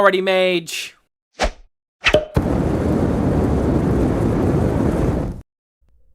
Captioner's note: loud swing rings as cork pops and flames roar